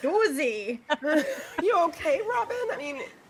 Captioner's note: people laughing